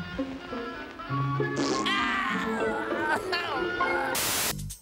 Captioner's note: crying